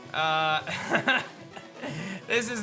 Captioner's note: laughs